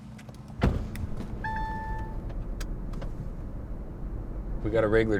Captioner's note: GPS beeping